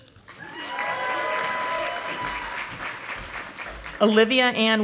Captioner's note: audience applauding